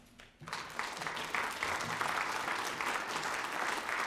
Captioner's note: applause